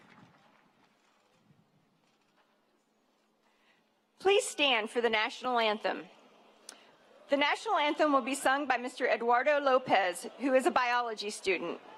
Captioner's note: speaking spanish; cheering